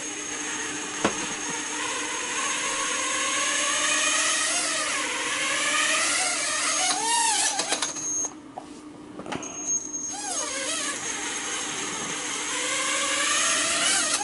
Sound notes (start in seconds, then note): 0.0 buzzzzzzzz; 4.8 buzzzz; 10.2 buuZzzZZZZ